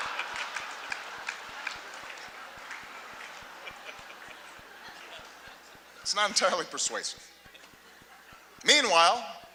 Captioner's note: laughter, applause